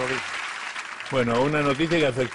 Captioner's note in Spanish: Aplausos